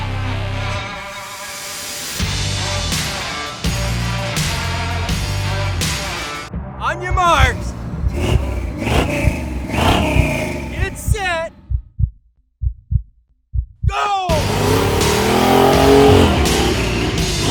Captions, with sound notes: On your marks. (heart beats) (engine revs) Get set. Go. (engine revs)